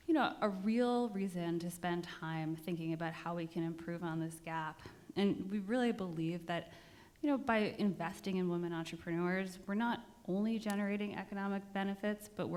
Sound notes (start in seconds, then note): none